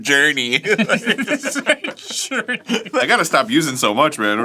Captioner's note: laughing